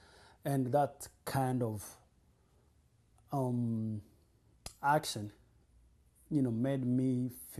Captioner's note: pauses for 3 seconds